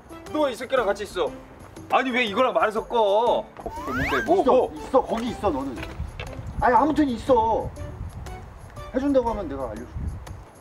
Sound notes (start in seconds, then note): 4.8 Chunggi’s footsteps lighter than a goose feather